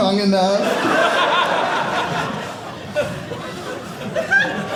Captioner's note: audience laughing